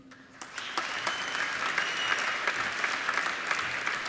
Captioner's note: applauding